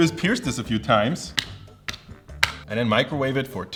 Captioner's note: plastic poking